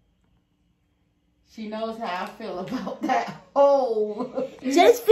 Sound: laughs

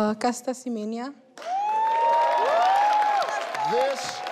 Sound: audience cheering

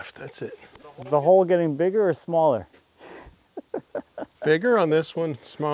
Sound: laughs

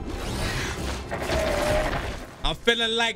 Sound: wings flapping

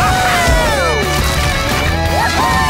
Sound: rocks crumbling

